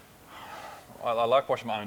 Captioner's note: sighs